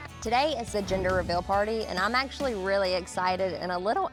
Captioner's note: none